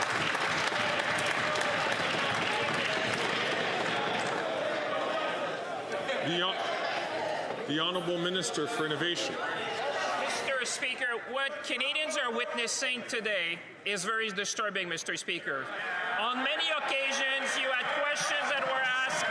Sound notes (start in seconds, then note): 2.1 some Applause